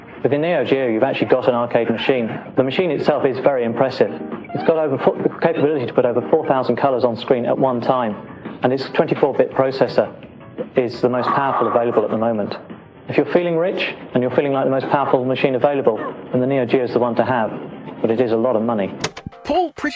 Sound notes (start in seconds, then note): 5.1 stumbles over words